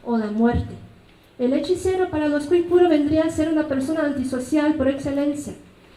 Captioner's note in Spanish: habla en mazateco